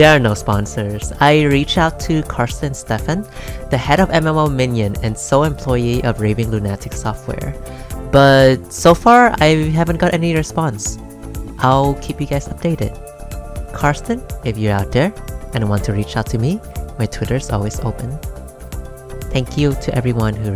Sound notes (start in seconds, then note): none